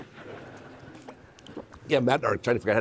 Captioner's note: audience laughing